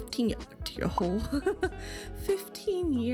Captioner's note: laughs in shock